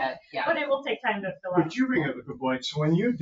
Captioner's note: laughing